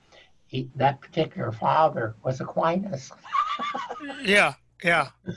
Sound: laughing

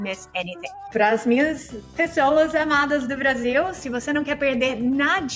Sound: speaking in Portuguese

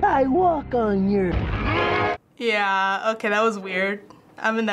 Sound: man yells

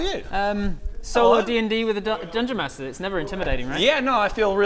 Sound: muttering from surplus players

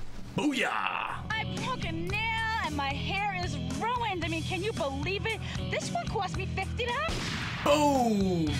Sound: gunshot

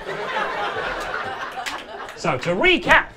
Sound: audience laughing

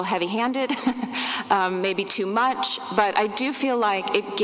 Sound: laughs

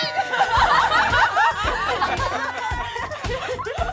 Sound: laughing

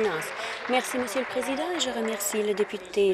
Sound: applause

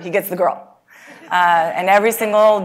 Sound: laugh

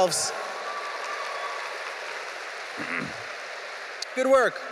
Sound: audience cheering

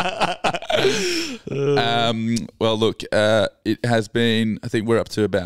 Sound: laughing

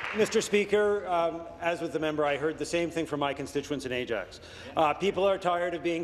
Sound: applause

